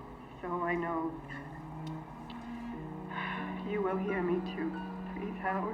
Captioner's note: sighs